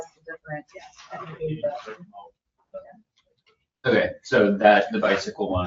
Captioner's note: members chattering